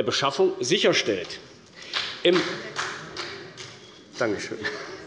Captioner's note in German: Beifall der Abg